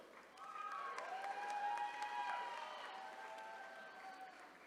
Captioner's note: attendees cheering